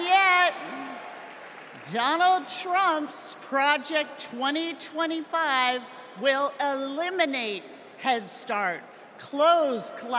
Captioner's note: applause